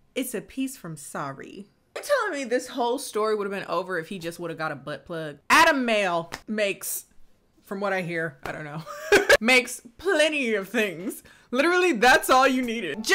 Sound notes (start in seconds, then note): 8.8 laughs